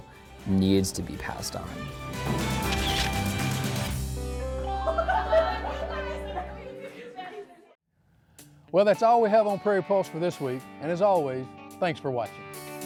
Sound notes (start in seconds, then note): 2.1 lively music; 5.1 chattering